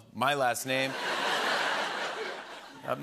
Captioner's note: laughter